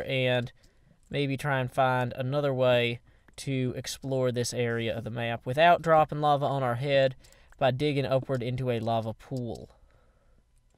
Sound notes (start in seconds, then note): none